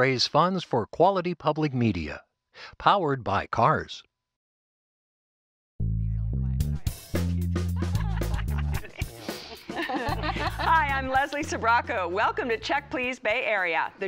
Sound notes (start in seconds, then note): 7.7 laughter